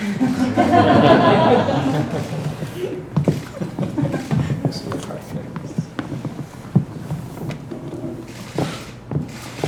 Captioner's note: laughter